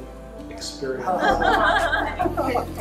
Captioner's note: laughter